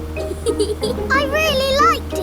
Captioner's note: george chuckling